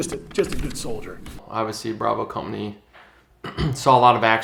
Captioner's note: clears throat